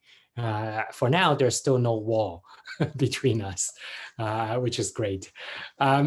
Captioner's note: chuckles